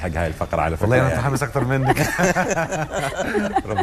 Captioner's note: laughs!